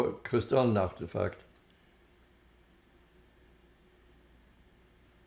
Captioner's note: pauses 6 seconds